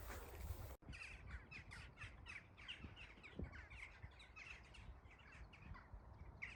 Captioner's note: bird chatter